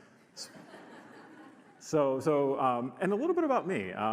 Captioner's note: audience laughs